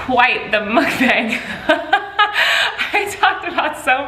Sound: laughs

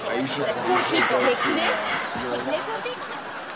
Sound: laughing

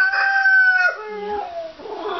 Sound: crowing

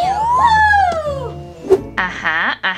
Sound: assistant cheering

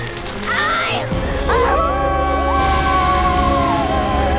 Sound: howling

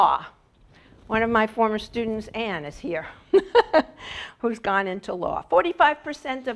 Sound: laugh

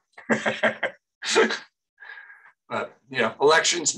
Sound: laughs

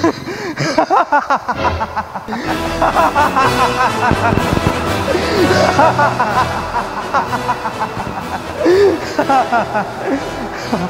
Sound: laughing

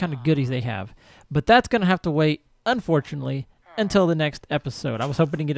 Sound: villager chatters

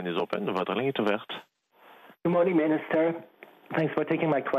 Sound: speaking French

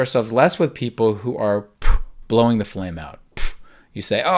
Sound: puffs

